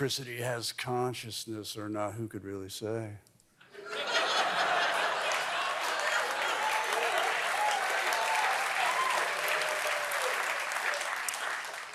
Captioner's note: applause